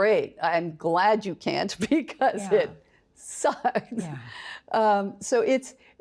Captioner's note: chuckles